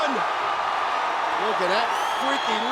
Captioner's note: audience cheers